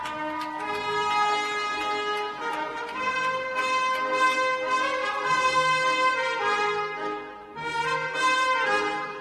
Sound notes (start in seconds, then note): 0.0 cheers and applause